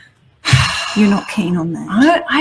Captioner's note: sighs